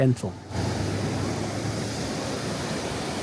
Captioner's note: sound of waves crashing below